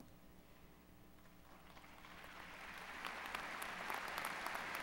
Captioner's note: applause